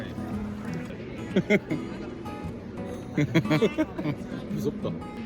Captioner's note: can't help but laugh